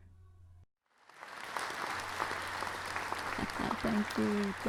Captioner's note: crowd goes wild